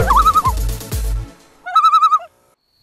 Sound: loon call

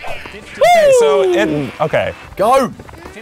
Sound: cheers

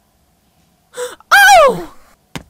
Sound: gasps

